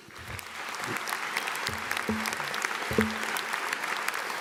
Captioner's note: audience applauds